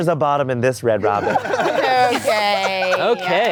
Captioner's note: laughing